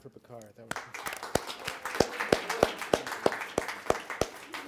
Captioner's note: applause